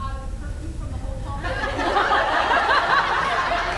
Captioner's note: laughs